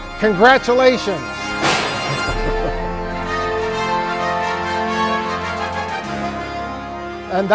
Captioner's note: confetti cannon *POP* with dramatic music